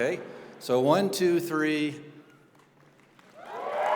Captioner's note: cheering